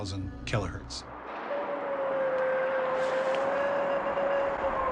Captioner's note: eerie howl